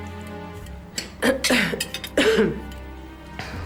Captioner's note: clears throat